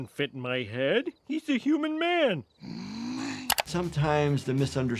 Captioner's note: Marge sighs